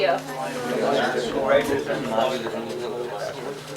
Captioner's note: chatter